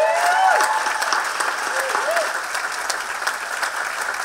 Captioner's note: cheering and applauding